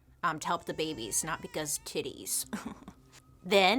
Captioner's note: chuckles